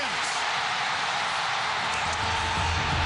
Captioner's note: cheers and applause